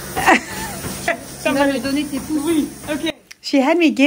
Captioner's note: women speaking in foreign language